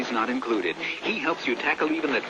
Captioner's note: breath